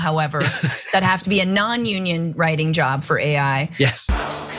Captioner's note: laugh